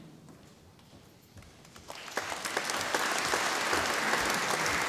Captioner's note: audience applauding